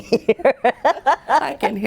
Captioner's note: laughing